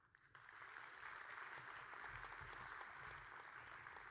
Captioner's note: audience applauding